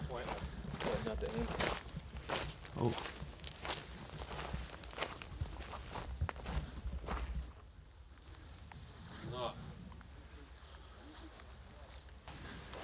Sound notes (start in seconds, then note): 8.9 speaking in foreign language